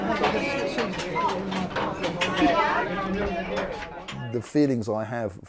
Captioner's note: turnstiles clanging